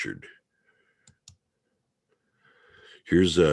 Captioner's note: mouse clicking